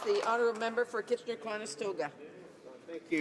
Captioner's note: some applause